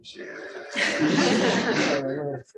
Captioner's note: laughter